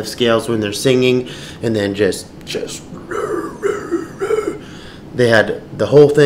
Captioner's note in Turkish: taklit eder